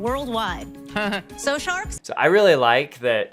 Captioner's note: laughs